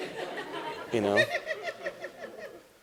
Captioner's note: laughter